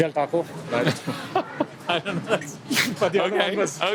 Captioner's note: both laugh